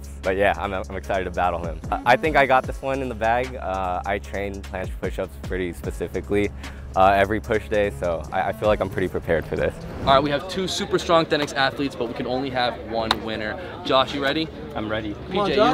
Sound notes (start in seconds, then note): 13.0 hand claps